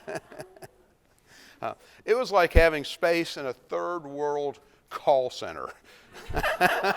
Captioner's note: laughs